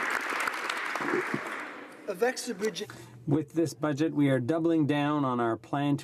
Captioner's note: applause